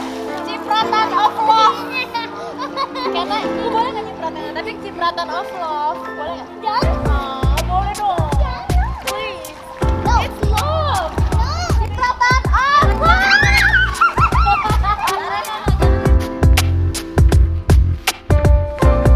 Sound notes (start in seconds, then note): 2.7 laugh; 12.6 scream; 13.7 laughter